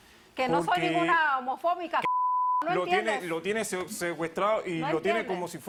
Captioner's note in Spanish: Bip